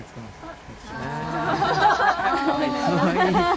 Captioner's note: laugh